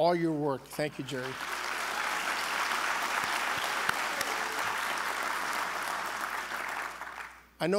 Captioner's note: applause